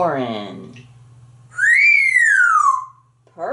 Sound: whistling

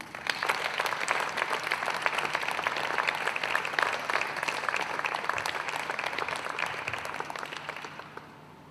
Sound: people Clapping

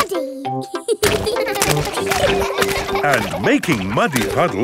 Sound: children laughing

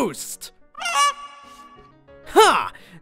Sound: goose squawks

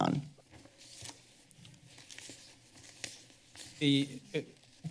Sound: paper shuffling

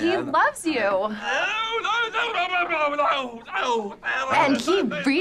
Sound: groaning

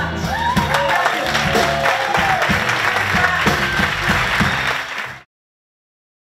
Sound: applause and cheering

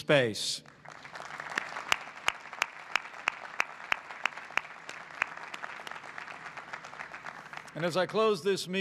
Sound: applause

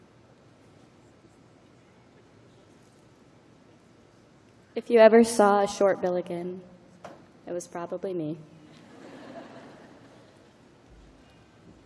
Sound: laughter

